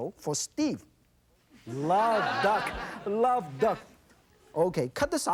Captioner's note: audience laughs